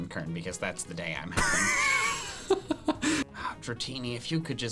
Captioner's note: laughs